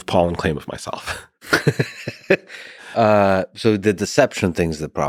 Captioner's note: both chuckling